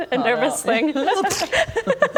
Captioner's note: pffpt